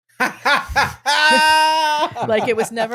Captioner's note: laughing